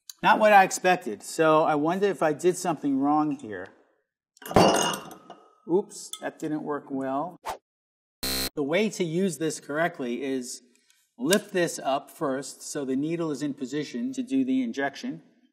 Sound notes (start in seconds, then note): 4.4 bottle thuds; 8.2 buzzer buzzes